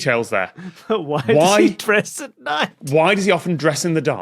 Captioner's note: laughs